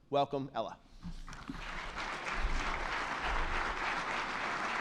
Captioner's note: attendees clapping